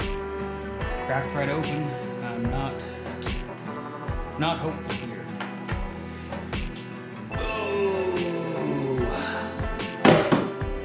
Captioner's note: groans